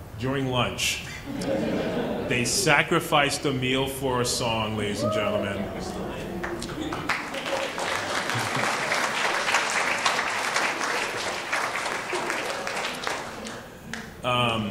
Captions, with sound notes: during lunch. (laughing) They sacrificed a meal for a song ladies and gentlemen. (applauding)